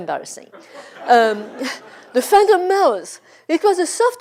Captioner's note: laugh